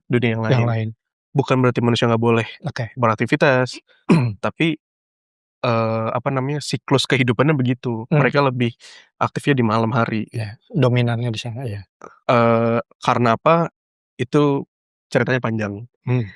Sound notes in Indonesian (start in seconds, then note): 4.1 berdehem